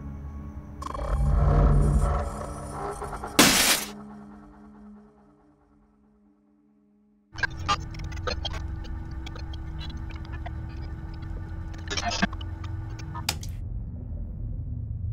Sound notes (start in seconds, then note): 3.4 glass break